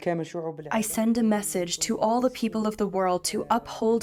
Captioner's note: through translator